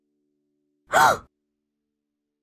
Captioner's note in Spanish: gasp de sorpresa